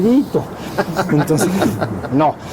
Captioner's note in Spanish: risas